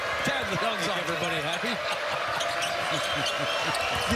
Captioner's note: laughter